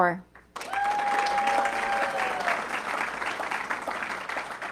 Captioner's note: audience clapping